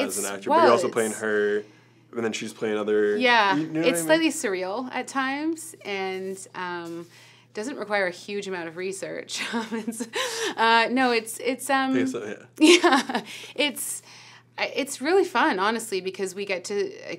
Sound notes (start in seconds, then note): 12.0 mumbling